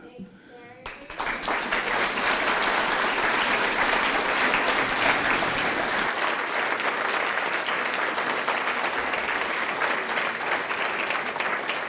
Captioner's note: applause